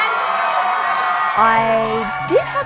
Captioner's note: cheering